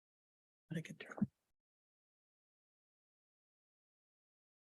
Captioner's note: audio warps